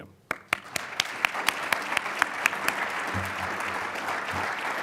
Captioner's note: audience applauds